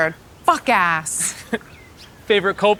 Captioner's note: camera Man chuckling